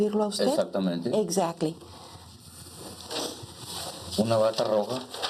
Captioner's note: speaking Spanish